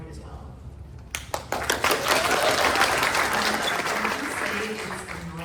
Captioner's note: applause